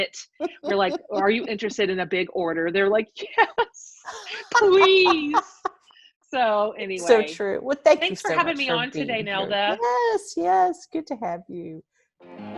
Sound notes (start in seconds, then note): 0.2 laughs; 4.0 laughs; 12.4 upbeat music